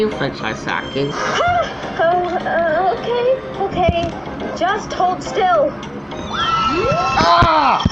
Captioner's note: gasps